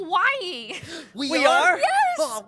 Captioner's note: gasp